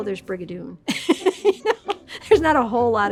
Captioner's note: laughing